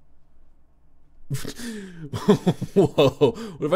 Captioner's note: laughs